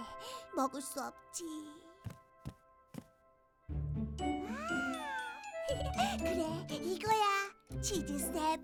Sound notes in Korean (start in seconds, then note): 2.0 발걸음 소리; 5.7 웃음소리